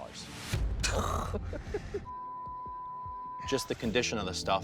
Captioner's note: laughter